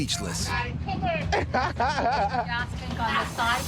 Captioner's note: driver laughs